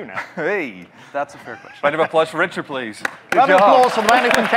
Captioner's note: clapping